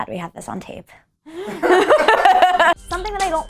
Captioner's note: laughing